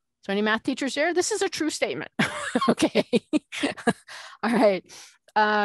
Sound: laughing

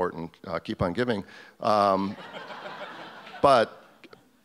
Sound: audience laughs

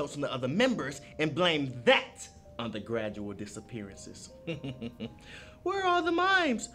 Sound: snickering

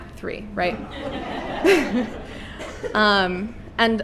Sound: laughter

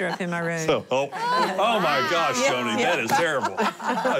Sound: laughter

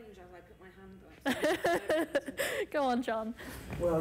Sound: laughs

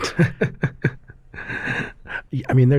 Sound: laughter

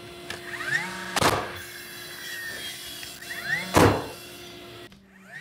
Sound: nail gun thudding

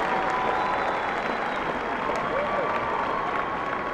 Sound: cheering

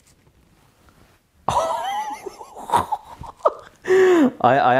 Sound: laughs

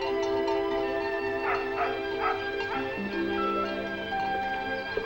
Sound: dog barking

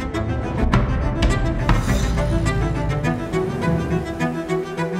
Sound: hammering

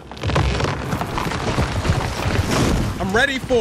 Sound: log thuds

